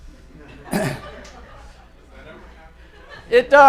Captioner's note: audience laughter